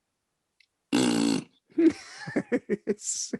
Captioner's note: imitates farting; laughs